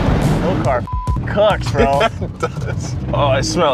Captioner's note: beep